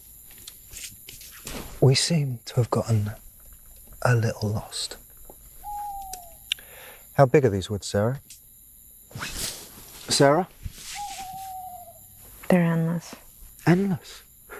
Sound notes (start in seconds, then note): 5.0 owl hooting